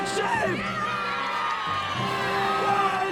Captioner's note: crowd cheering